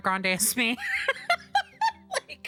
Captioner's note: laughter